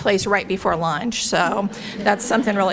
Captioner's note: laughs